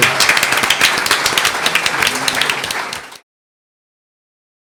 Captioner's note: audience applauds